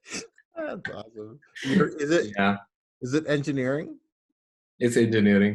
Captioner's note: laughs